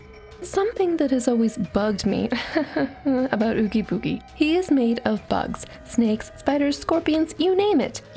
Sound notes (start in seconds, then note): 2.3 haha